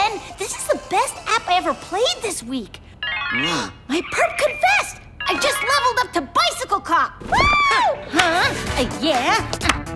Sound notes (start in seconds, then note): 3.0 game sounds